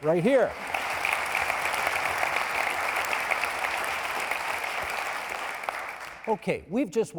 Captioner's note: applauding